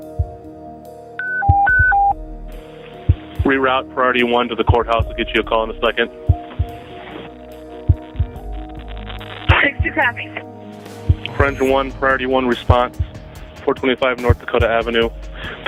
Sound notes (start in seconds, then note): 3.6 voiceover; 6.4 heartbeats